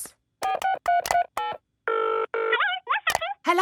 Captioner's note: dials phone; on phone